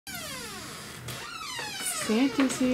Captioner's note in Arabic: باب صرير ببطء